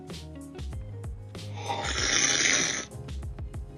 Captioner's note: slurping